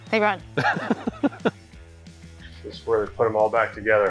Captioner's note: laughing